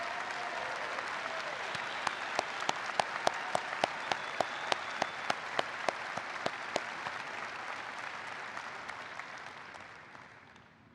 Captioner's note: applause